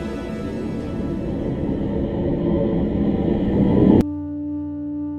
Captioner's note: hollow static sound; minimalist music